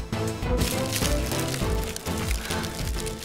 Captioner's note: Fire burning